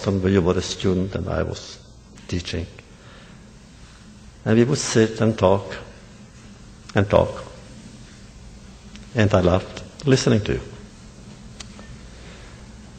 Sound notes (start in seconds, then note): none